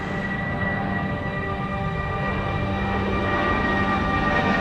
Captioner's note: jet engine roars